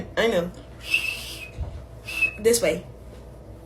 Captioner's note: whistles